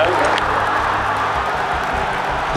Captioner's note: crowd cheering